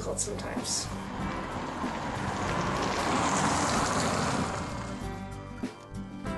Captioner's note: car drives